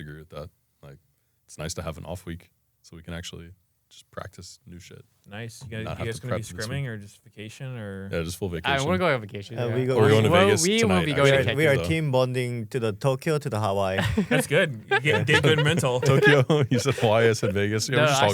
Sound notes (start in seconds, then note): 14.0 laughs